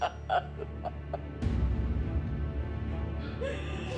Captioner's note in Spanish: sollozos